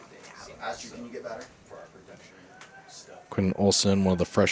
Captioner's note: indistinct chatter